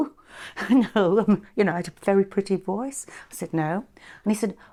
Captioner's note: chuckles